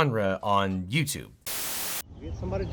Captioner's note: static crackling